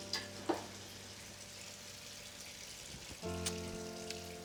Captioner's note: soup sizzling